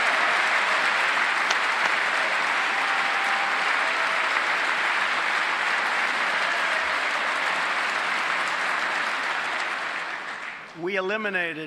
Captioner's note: applause